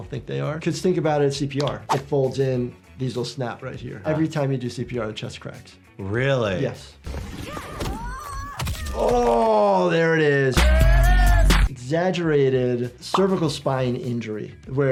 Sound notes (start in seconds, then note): 6.9 bones crack; 7.4 Sonia and Kitana grunt